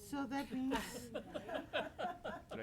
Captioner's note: board members laughing